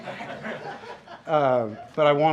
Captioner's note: laughter